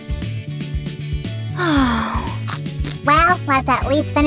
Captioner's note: munching sounds